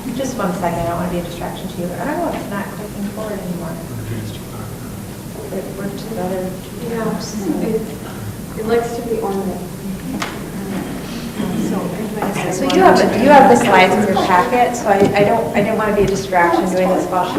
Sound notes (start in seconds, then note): 5.7 talking